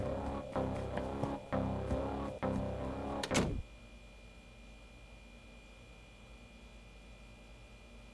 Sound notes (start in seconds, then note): 0.0 tense music; 3.0 door closes